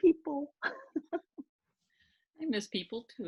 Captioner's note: laughing